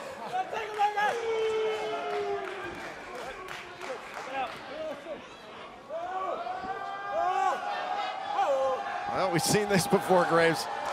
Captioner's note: crowd cheering